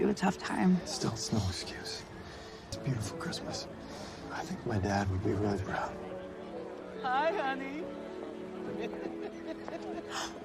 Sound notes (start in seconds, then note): 8.6 laughing